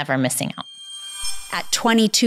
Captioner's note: screen resonating